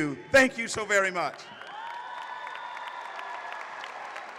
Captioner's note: applause